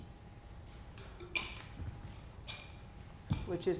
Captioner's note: water bottle clacking